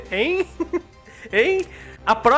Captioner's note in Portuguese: risos